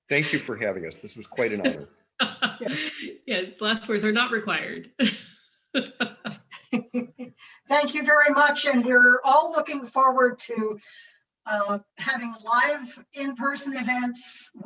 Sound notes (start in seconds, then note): 2.1 laughing; 5.8 laughs